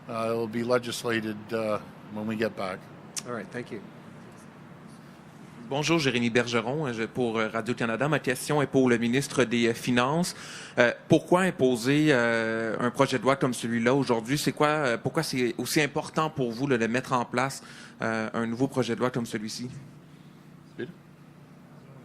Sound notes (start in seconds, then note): 5.9 speaking French